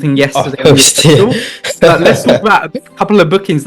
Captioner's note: laughs